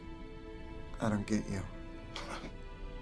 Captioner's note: chuckling